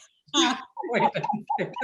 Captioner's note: laughs